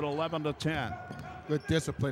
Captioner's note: yelling